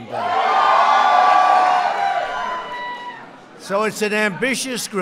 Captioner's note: applause